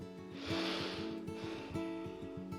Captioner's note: inhales and exhales